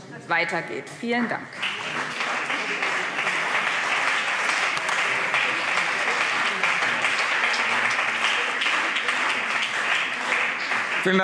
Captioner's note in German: Beifall BÜNDNIS 90/DIE GRÜNEN und CDU